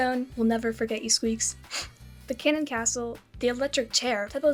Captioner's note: sniff